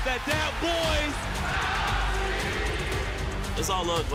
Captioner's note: crowd yells